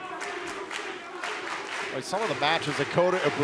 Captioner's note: fans chanting